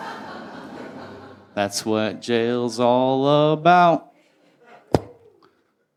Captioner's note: pop